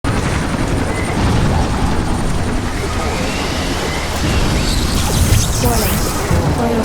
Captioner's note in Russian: ворчание лопастей вертолёта, тяжёлые шаги меха